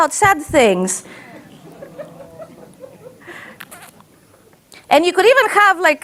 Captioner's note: audience laughs